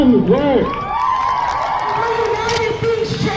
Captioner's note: crowd cheers